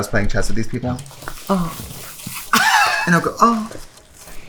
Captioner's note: moans